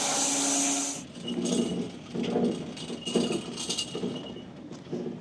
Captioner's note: saw rattling